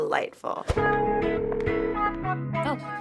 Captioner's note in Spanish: teléfono sonando